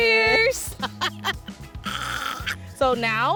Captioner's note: laughter